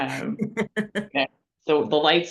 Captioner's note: laughing